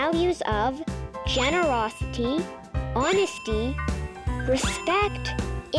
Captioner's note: check marks dinging